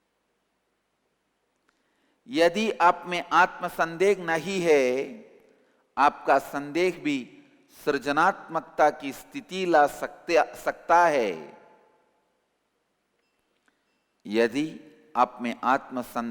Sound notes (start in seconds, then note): 2.3 hindi